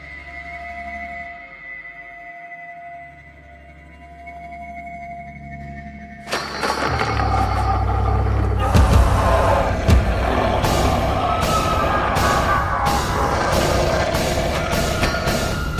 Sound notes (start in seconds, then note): 6.3 intense music; 6.3 all screaming; 6.6 tarp crinkling